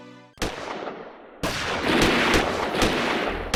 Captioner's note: guns roaring